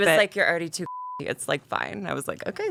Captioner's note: beep